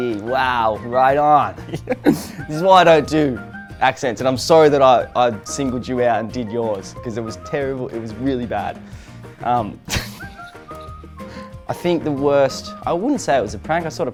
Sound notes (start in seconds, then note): 1.6 laughs; 9.9 laughs